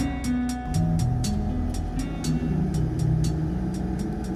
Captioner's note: truck driving noises